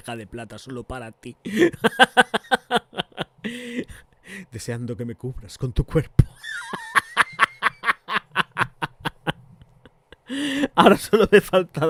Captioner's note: laughs